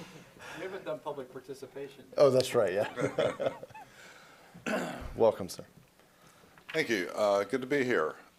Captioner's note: laughter